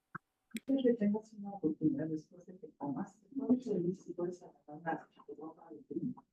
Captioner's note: participant talking in a foreign language